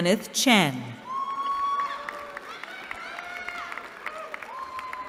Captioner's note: cheering